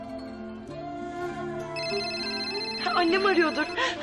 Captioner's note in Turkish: Telefon çalıyor